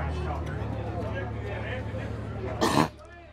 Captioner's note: crowd chattering; audience member coughs